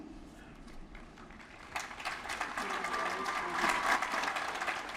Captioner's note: applause